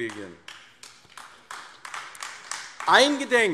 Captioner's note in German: Beifall AfD